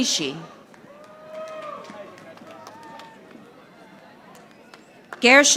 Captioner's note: audience applauding